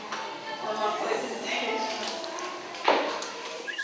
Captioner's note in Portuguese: Voz da professora seguida de risos